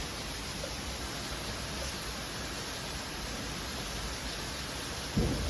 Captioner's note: storm noises